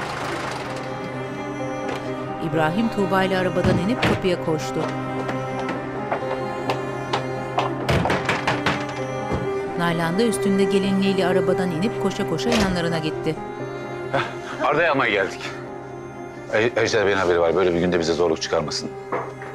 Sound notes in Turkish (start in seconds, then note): 3.4 Kapı kapanma sesi; 7.6 Kapı vurma sesi; 12.3 Kapı açılma sesi